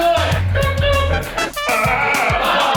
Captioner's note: audience laughter; train whistles; audience laughter